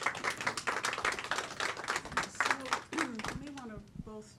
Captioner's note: applause